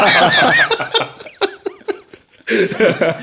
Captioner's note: laughing